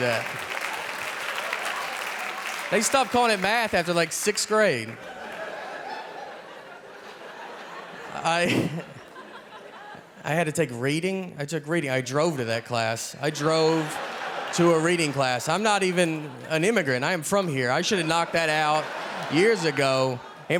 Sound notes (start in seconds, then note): 0.0 audience laughing; 5.0 audience laughing